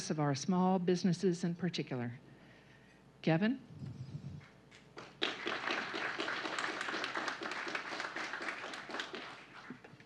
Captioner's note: applause